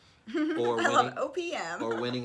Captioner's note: laughs